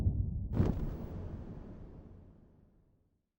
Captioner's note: faint thunder claps